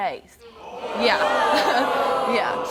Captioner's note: hollering